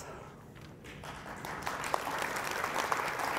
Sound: applause

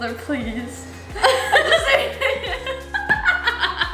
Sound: laughing

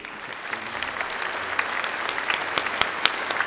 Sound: applause

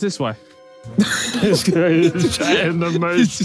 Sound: Tobi and Vik laughing

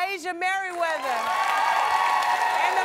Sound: applause

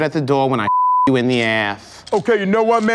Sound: beep

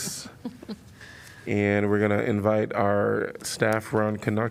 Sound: laughter

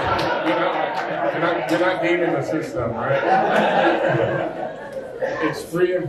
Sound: laughter; laughter

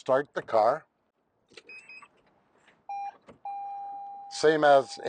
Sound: car beeping

